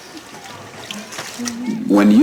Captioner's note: water splashing